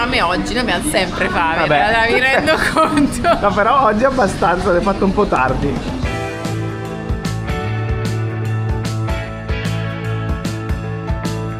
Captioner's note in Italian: risate